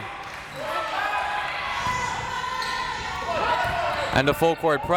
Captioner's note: crowd members shouting